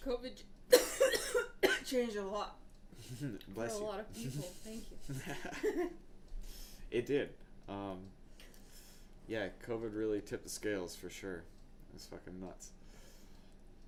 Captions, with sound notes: COVID changed a lot. Bless you. - I know a lot of people. Thank you. (laughs) - It did. Yeah, COVID really tipped the scales for sure, it was f*** nuts.